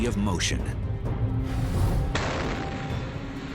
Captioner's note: explosion